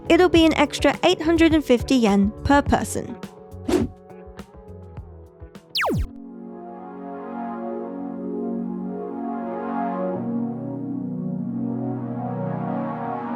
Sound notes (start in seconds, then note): 3.6 air whooshing; 5.7 laser zapping; 5.8 gentle music